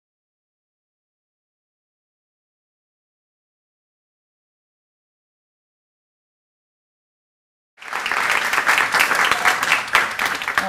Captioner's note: applause